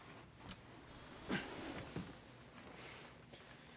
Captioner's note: grunts